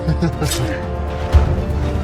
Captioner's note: evil laughs